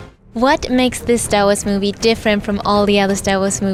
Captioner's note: voiceover